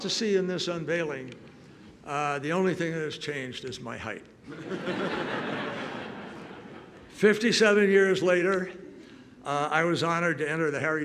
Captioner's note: laughter